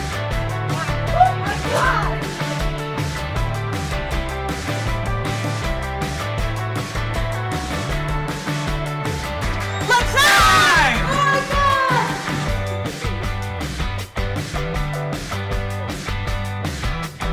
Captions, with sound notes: - Oh my god! - Let's hang! (woman screams) - Oh my god! (cheery upbeat music)